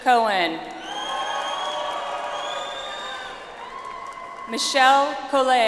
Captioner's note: audience applauds